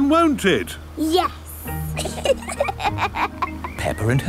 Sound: both laughing

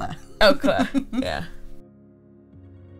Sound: laughing

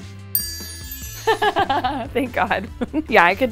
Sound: bell dings

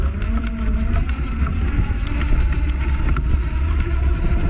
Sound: motor running

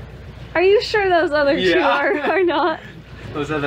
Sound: laughs

